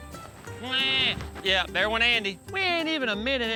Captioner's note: imitates baby crying; thud